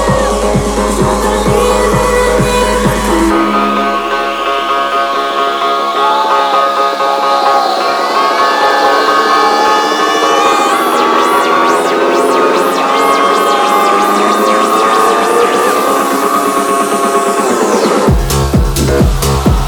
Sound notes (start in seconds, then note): 7.8 crowd cheering; 13.2 techno music